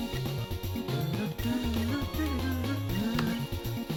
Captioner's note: attempting to hum to song